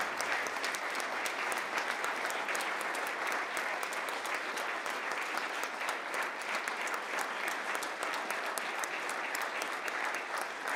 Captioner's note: applause